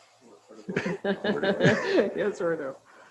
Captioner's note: laughing